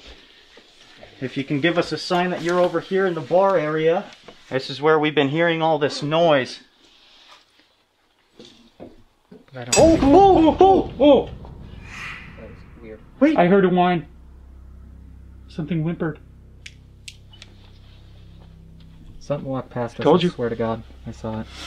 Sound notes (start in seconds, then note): 8.2 loud knocking